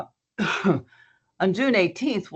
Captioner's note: coughing